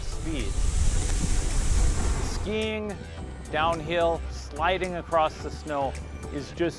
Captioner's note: skis swishing